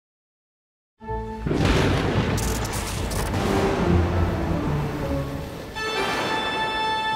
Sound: suspenseful music; lightning crashing; tense music

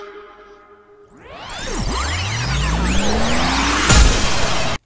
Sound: tape rewinding

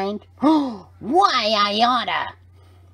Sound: gasps

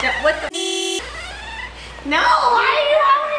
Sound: car horn honks loudly

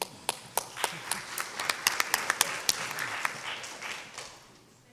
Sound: audience applauds

